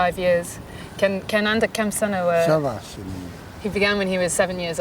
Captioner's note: non-english speech